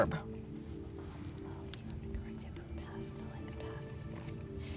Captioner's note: whispering